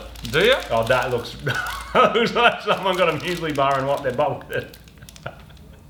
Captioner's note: laughs